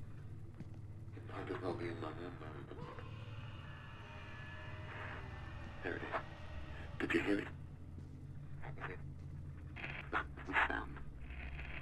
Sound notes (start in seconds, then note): 2.0 distant screaming